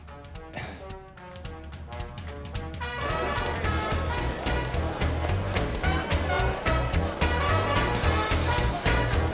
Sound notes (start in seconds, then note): 0.2 laughs; 5.8 crowd chattering